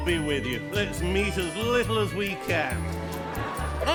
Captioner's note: laughter